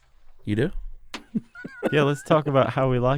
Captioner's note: laughs